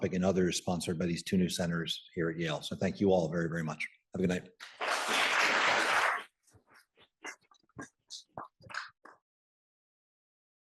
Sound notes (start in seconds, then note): 4.8 audience applauding